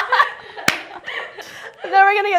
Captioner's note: laughs